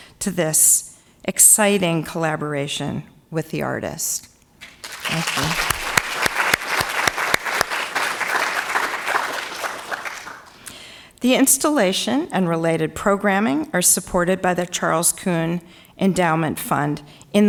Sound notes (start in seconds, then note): 4.6 audience applauding